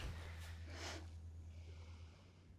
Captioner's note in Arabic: يضحك